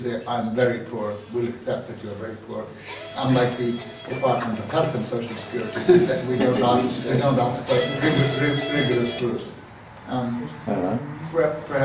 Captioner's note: phone noise